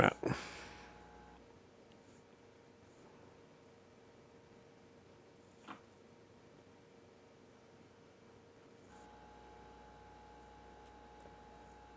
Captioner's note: silence